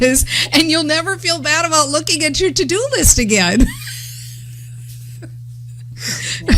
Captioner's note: laughter